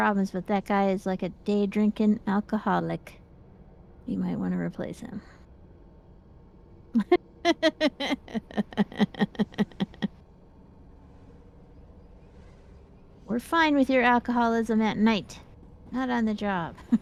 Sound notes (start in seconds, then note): 7.4 laughs